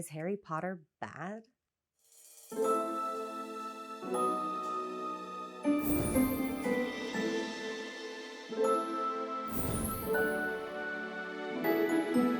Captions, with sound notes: is Harry Potter bad? (mysterious music) (whoosh) (whoosh)